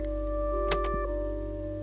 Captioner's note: click